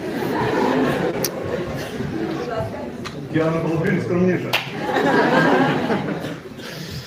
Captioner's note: laughter in the hall